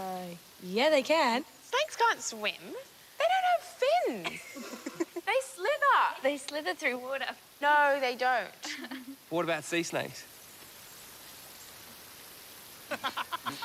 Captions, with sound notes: Uh, yeah, they can. Snakes can't swim. - They don't have fins! - (LAUGHS) - They slither! - They slither through water. No, they don't. What about sea snakes?